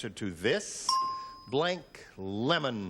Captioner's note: ding